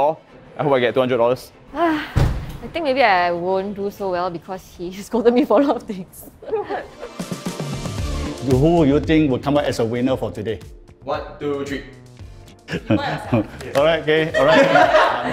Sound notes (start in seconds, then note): 1.7 sigh